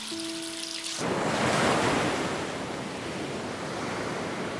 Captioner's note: waves crashing